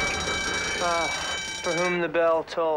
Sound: truck horn blaring; school bell ringing

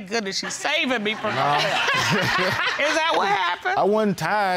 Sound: audience laughs; laughing

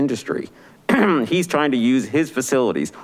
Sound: clears throat

